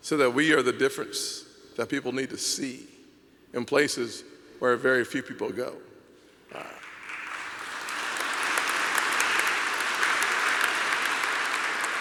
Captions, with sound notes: so that we are the difference that people need to see in places where very few people go. (applause)